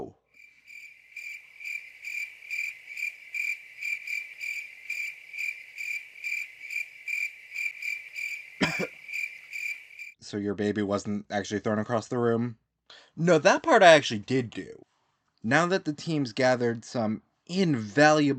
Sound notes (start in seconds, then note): 0.3 crickets; 8.6 cough